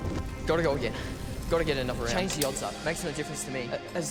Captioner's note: echoes